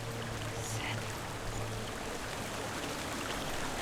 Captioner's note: whisper